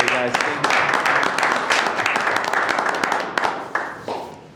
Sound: board members clapping

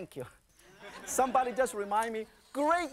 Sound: audience laughing

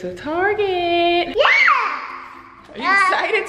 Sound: child yells

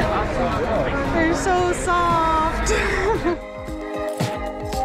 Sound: laughs

